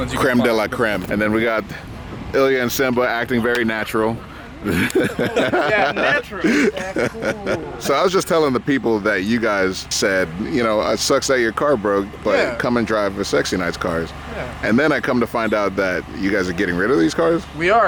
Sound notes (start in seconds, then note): 4.6 laughs